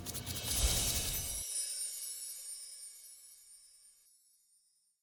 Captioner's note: chimes tinkling